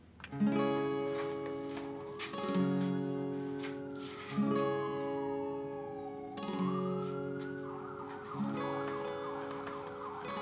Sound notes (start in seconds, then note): 0.5 gentle bright music; 1.8 sirens wailing